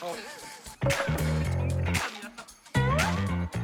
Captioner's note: inhales